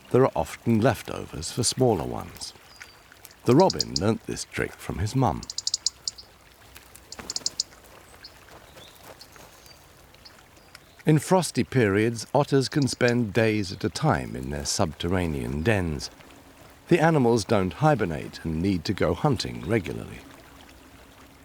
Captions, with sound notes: there are often leftovers for smaller ones. The robin learnt this trick from his mum. [robin tweeting] In frosty periods, otters can spend days at a time in their subterranean dens. The animals don't hibernate and need to go hunting regularly.